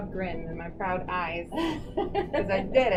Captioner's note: laughs